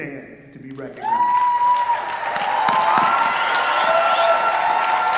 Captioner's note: applause and cheering